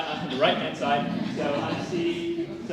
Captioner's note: laugh